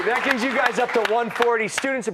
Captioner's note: applause